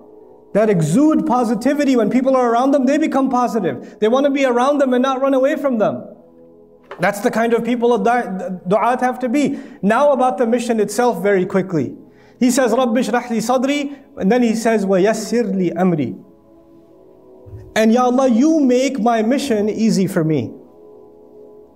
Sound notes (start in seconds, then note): 12.9 Arabic; 16.3 Arabic